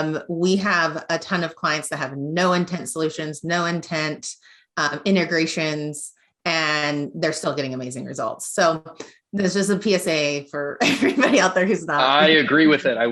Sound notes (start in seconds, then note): 12.0 giggles